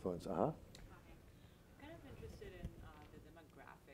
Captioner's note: woman's Voice